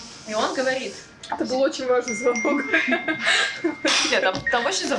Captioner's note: laughter